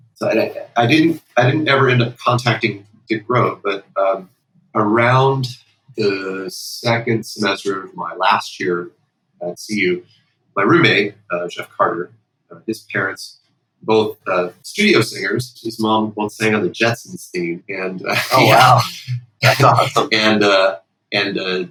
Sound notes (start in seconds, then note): 18.0 laughter